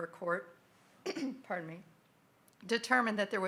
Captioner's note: clears throat